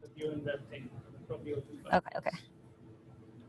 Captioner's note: speaks from a distance